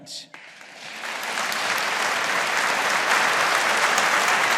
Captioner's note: audience applauding